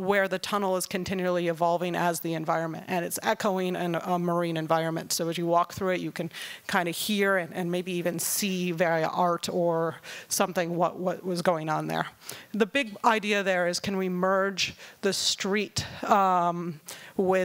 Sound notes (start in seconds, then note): none